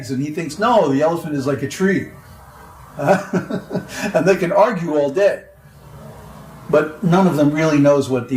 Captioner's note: laughs